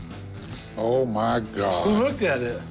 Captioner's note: none